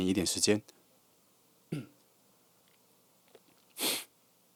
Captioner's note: suck